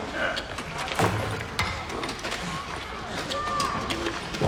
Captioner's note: metal clanging, pounding